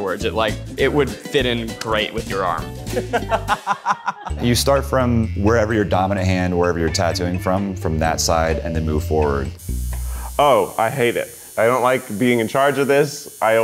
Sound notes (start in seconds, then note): 2.8 laughing; 9.5 tattoo machine buzzing